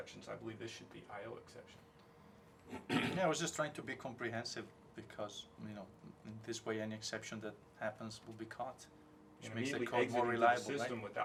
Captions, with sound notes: I believe there should be IO exception to the rule. [COUGH]. >> Yeah I was just trying to be comprehensive, because you know, this way an exception that happens will be caught. >> Sure. >> We need an exit-able system without printing anything is